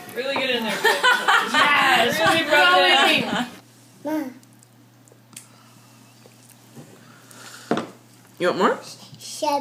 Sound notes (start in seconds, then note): 0.6 laughing